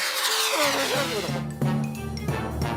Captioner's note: whooshing